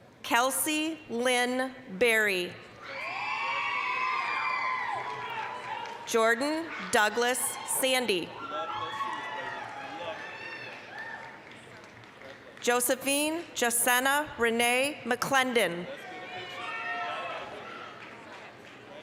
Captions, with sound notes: Kelsey Lynne Berry. (applause, cheering) Jordan Douglas Sandee. (applause, cheering) Josephine Jashenna Renee McClendon. (applause, cheering)